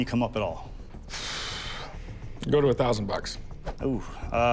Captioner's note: exhales